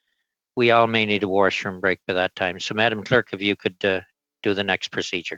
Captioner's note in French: voix de l'interprète